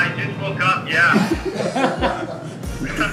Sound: laughter

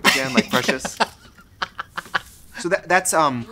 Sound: laughs

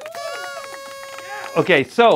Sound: cheering

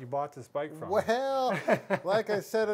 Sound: laughs

